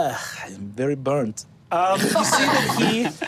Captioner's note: group laughing